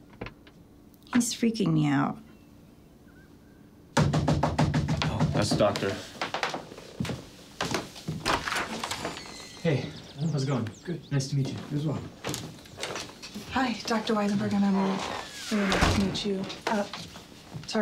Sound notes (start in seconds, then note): 3.9 pounding on door